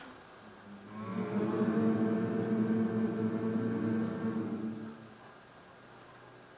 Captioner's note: humming